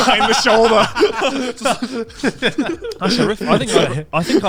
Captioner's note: laughs